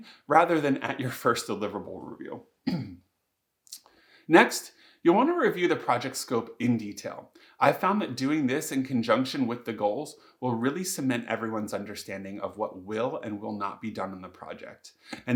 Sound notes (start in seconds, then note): 2.6 coughs